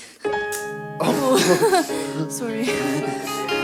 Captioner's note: nervous laughter